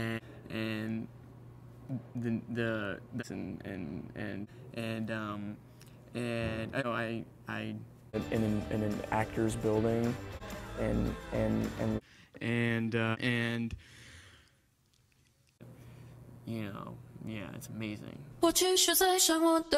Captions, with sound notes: it's and and the the and and and and um I I in an actor's building and and and and uh and (breathe in) you know, yeah it's amazing